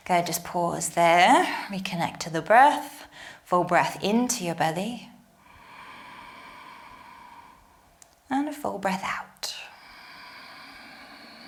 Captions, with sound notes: Okay, just pause there. Reconnect to the breath. Full breath into your belly. (inhales) And a full breath out. (exhales)